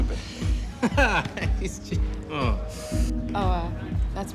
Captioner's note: laughs